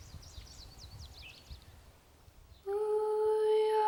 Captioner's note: birds singing